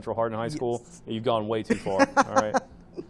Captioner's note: laughing